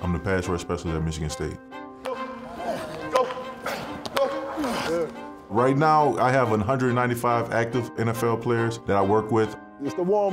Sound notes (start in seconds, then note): 2.4 player grunting